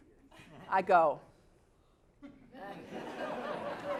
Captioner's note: laugh